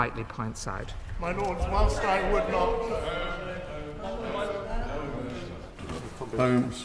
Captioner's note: chatter from the crowd